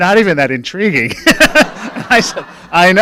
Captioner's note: laughing